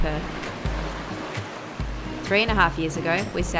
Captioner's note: waves crashing